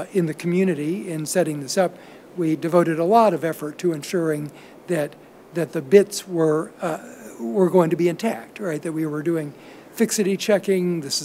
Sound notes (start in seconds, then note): none